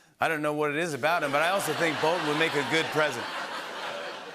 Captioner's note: laughter